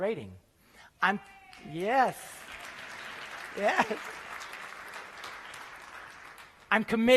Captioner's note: applause